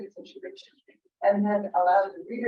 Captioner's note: person in green shirt speaks distorted electronically